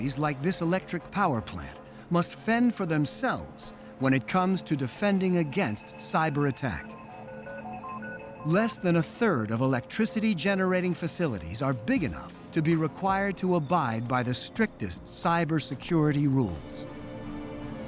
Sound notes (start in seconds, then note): none